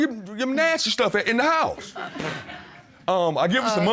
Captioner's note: Butler blows raspberry